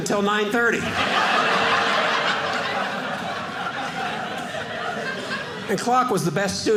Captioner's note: audience laughing